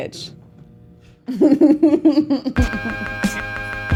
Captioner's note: laughs